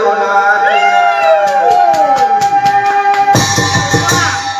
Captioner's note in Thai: ปรบมือ